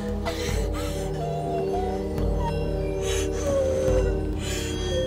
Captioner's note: Jessica Whimpering